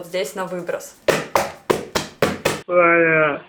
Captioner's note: knocking